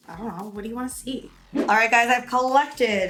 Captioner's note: whooshing sound